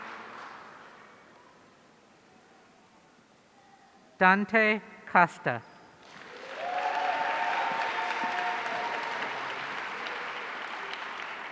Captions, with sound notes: Dante Costa. (audience cheering)